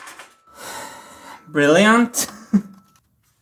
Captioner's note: sighing; chuckles